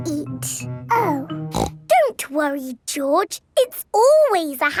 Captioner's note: snorts